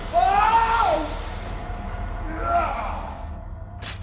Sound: convulsing from fear

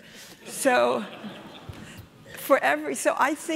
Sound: audience laughing

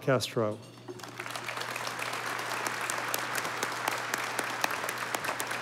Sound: audience applauding

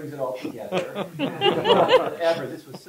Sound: laughter

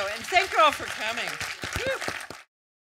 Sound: audience applause

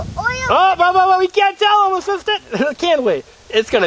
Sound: voiceover

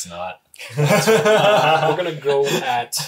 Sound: laughs

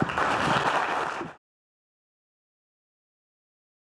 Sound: audience clapping

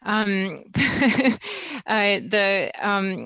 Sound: laughs

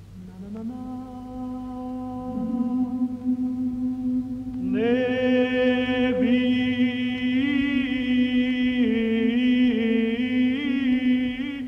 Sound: chanting

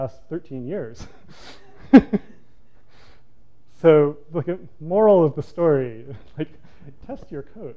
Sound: laughs

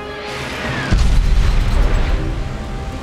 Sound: loud explosion

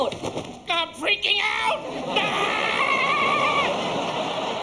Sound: screaming

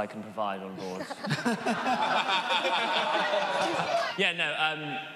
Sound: audience laughs

